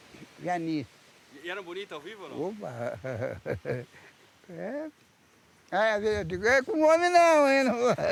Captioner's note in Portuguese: risos